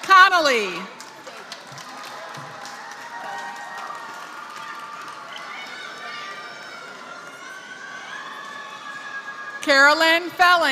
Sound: applause

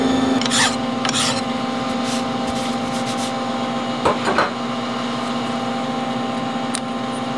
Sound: filing Noise

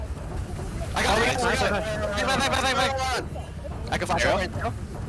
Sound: excited chatter

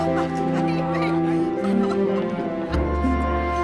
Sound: excited chatter

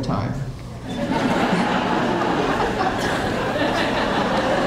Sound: audience laughing

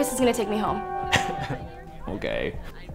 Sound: scoffs

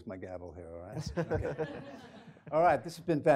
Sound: laughing

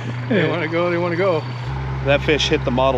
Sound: laughing

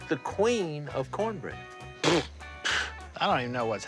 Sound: mocking scoff; scoffs

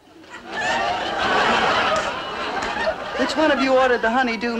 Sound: audience laughing

